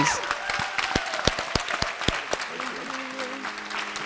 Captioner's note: applause